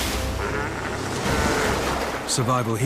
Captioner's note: ice crashes in water; seal braying